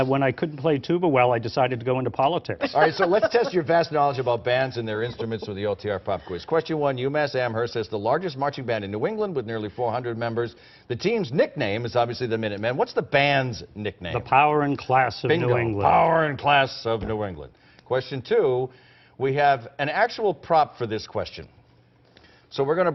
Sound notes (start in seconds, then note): 6.0 laughter